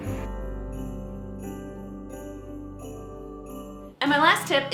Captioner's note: bells ringing; holiday music